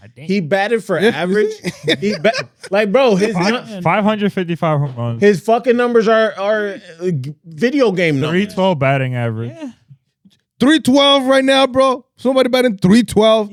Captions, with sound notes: He batted for average. (Laughing) Like, bro, his-- 555 home runs. His fucking numbers are video game numbers. 312 batting average. 312 right now, bro. Somebody batting 312.